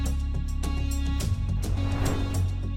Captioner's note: suspenseful music continues; transition whooshing; suspenseful music continues